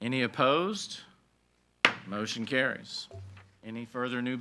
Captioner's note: gavel bangs